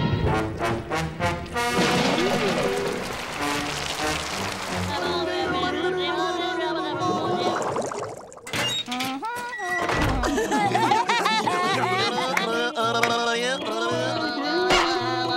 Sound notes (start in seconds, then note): 0.0 dramatic music playing; 8.2 humming; 9.8 laughing, blabbering